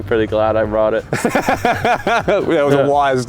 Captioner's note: laughing